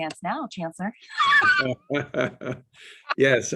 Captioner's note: laughter